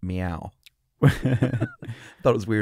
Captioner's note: laughter